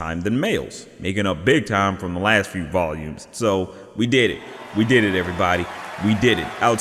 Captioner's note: sound of applause